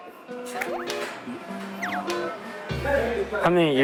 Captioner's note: clap